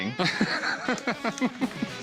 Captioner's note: laughter